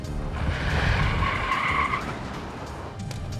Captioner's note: tires screeching